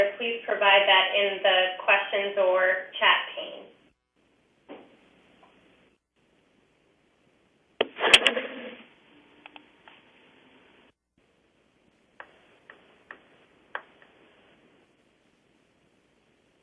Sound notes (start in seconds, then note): 5.1 pause